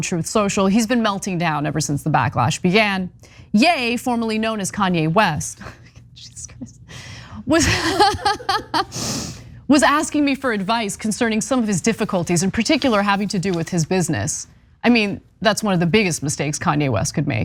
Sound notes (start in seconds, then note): 7.4 laugh